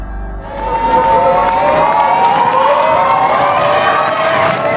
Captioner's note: spectators applauding